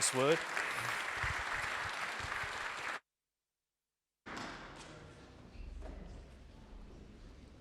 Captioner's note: clapping